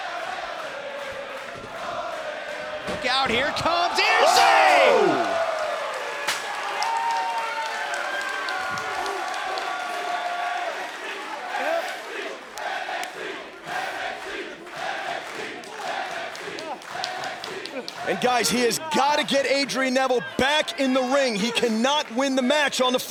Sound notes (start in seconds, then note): 0.0 fans chanting; 10.3 cheers & applause; 15.1 fans chanting